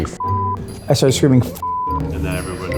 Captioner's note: beeps